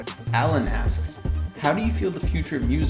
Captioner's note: voiceover